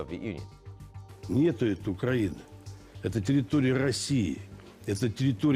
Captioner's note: speaking Russian